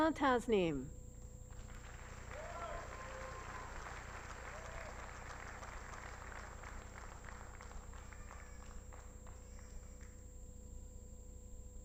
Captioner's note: applause